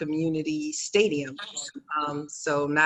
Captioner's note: murmurs